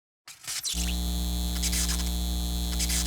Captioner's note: buzzing